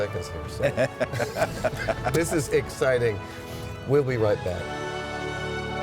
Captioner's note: laughter